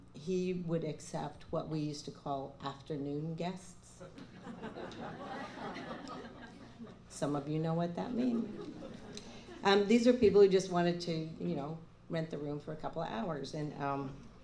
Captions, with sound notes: He would accept what we used to call "afternoon guests." [laughter] Some of you know what that means. [laughter] These are people who just wanted to, you know, rent the room for a couple of hours.